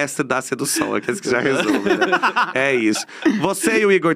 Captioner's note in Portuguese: risos